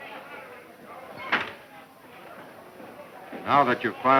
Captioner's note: door creaks